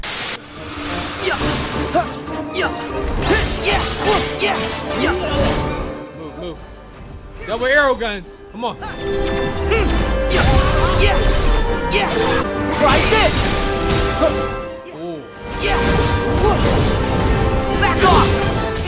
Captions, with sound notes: (static) (dramatic, orchestral music) (Keyblade clashing) - Move, move. No aero guns! Come on. (Sora grunting) Oh.